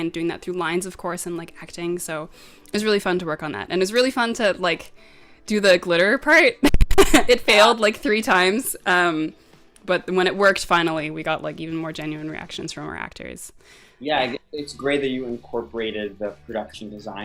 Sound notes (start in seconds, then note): 6.6 giggles